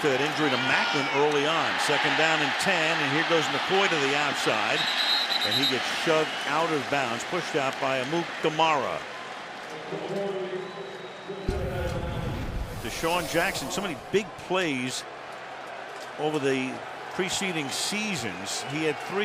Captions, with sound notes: Especially after that injury to Maclin early on. Second down in 10. And here goes McCoy to the outside. [whistle blowing] And he gets shoved out of bounds, pushed out by Amukamara. DeSean Jackson, so many big plays over the preceding seasons.